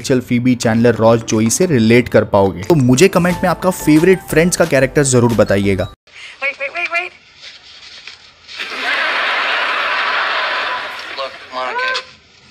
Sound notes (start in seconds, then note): 8.6 laughs